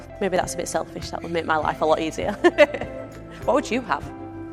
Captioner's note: laughs